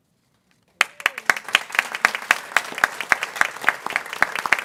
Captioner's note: people clapping